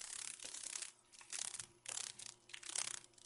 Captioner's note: sounds of a dragon fly